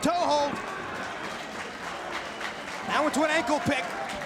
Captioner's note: spectators cheering